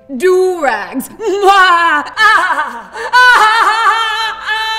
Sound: laughing

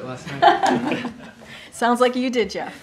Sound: laughter

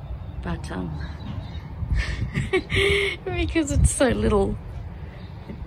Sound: laughing

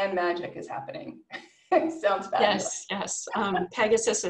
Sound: laughs

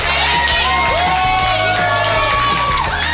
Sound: patrons cheering; patrons clapping

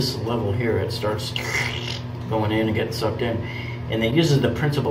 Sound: squelching

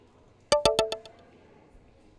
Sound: text alert

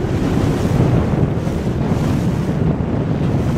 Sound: splashing

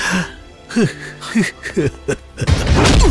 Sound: crying

